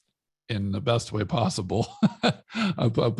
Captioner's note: laughs